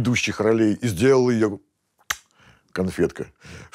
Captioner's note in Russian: звук поцелуя